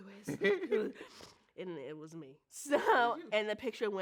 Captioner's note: laughs